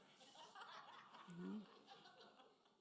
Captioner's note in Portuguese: risos da plateia